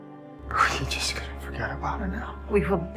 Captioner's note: voiceover